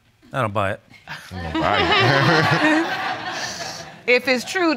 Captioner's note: all laugh